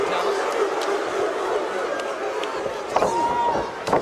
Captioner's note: audience barks